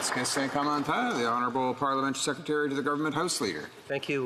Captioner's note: some Applause